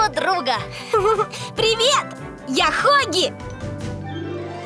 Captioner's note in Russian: хихикает